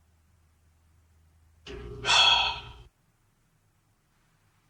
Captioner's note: awkward silence; skeptical exhale; awkward silence